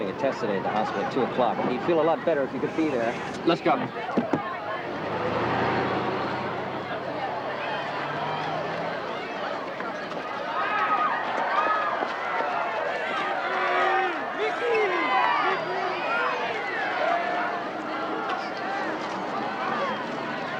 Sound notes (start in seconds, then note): 4.6 crowd chatter; 7.6 crowd clamoring